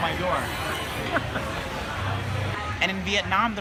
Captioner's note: laughing